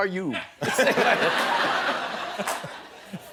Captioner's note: laughter